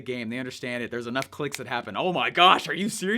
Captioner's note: snaps fingers